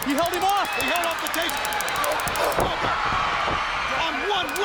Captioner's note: stun gun zapping